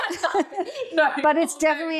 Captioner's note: laughing